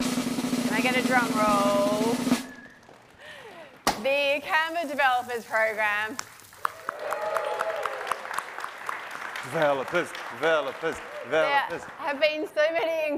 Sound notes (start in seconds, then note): 0.0 drumroll; 5.9 applause